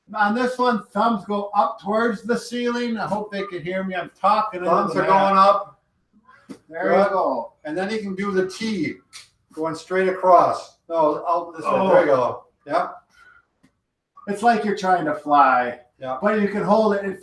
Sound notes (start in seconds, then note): 11.6 grunts